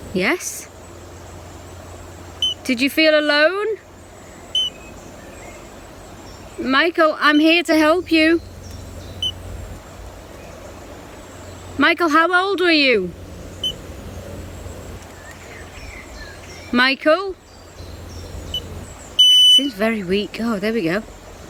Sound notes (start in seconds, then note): 2.4 beep; 4.5 beep; 9.1 birds chirping; 9.2 beep; 13.6 beep; 15.2 birds chirping; 19.2 beep